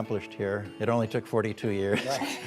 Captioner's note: laughter